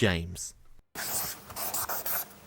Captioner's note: drawing sounds